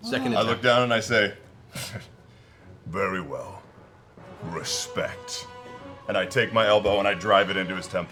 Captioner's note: sighs